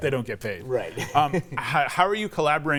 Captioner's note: laughs